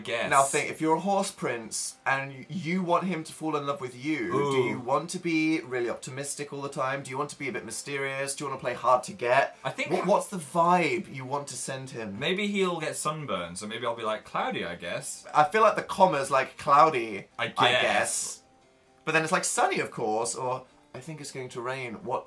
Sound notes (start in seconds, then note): 17.9 unsure tone; 19.8 enthusiastic tone